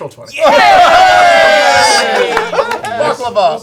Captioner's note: cheering